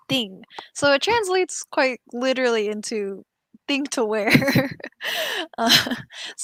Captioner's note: laughs